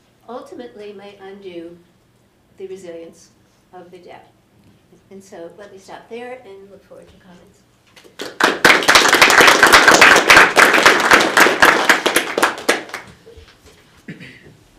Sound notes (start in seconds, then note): 8.0 applause